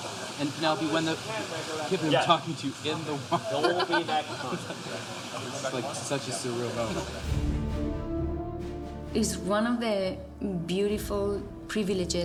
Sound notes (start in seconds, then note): 3.3 both laughing